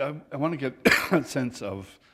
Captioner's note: laughter